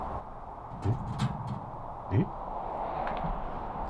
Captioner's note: the sound of a door moving